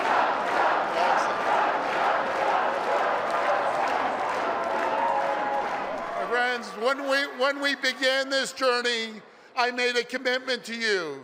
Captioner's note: Crowd chanting "Doug"